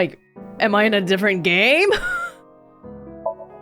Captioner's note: scoffs